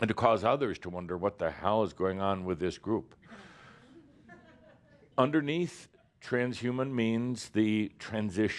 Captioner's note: a few chuckles